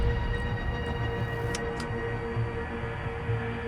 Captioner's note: button clicks; tense music continues